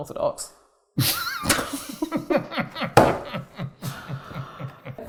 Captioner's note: both laugh